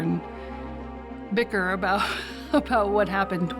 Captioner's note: laughing